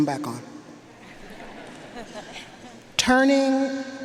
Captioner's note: audience laughing